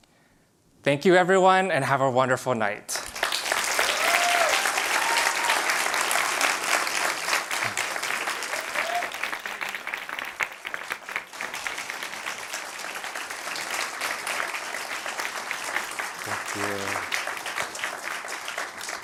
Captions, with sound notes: Thank you everyone and have a wonderful night. (clapping) Thank you.